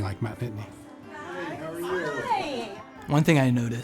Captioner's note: background conversations